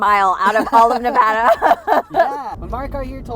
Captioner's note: laughing